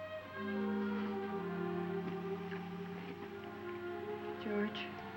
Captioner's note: water pouring